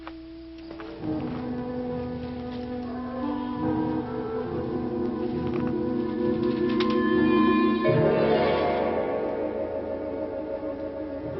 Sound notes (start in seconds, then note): 0.1 eerie music; 3.5 wolves howling